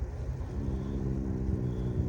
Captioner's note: growls